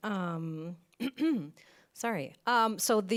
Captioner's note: clears throat